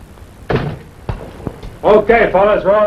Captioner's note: door banging